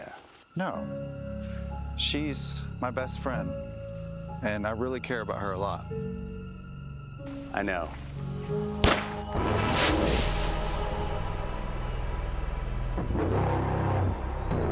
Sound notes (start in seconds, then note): 8.3 body thuds; 8.8 gun fires; 9.6 ominous music